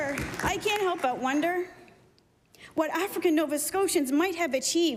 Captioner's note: applause